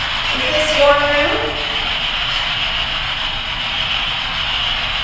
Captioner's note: static buzzing